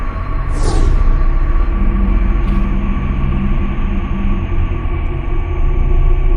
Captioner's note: brooding music continues; air whooshing